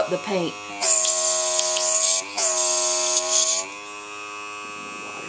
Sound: mixture bubbling

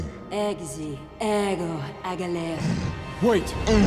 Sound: speaking foreign language

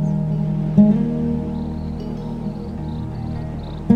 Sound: serene guitar music; birds chirping

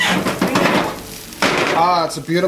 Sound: pizza sizzling

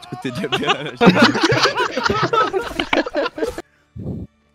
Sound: laughter

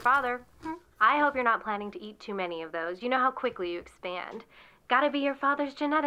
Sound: crunch

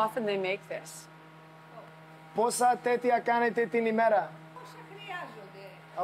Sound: speaking Greek

